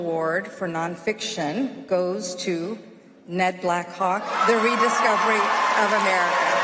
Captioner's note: applause